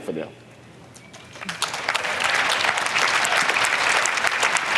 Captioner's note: applause